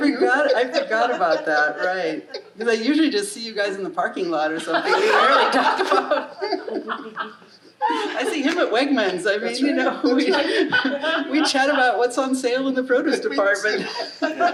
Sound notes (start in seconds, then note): 4.6 audience laughing